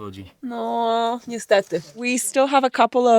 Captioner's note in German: spricht in einer Fremdsprache